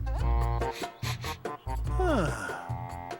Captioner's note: sniffs